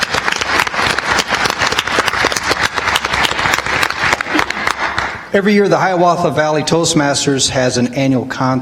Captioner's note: audience applauds